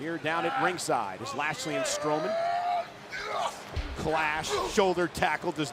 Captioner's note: wrestlers grunting